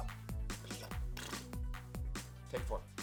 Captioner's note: upbeat music continues; blows raspberry